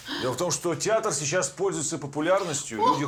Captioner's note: none